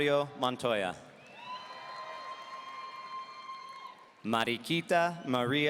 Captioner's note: audience cheering